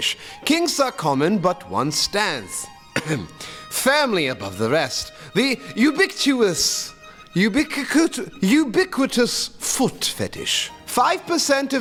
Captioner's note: ahem